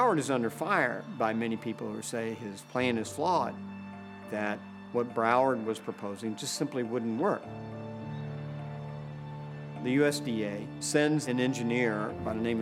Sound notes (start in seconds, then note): none